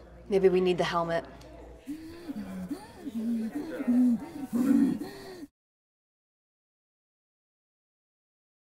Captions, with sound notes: Maybe we need the helmet. [FAST, HEAVY BREATHING]